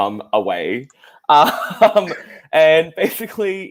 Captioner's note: laughs